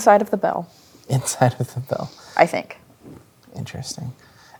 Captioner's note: chuckling